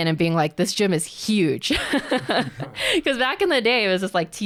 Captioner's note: laughs